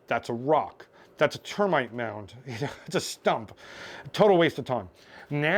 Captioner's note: laughs